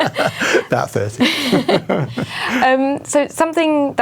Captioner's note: laughs